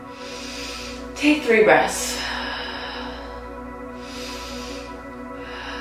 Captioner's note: breathing deeply